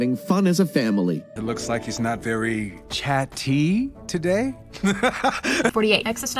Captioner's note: dissolves into laughter